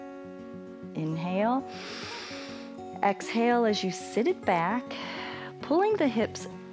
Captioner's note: inhales